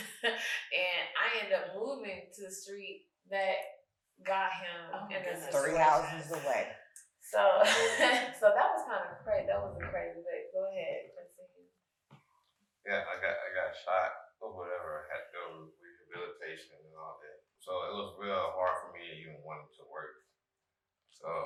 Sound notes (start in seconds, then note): 0.2 chuckles; 7.6 chuckles; 11.6 speaking faintly